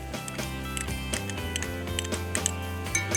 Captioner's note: spoon tapping; pan ringing